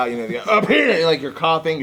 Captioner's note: fake coughing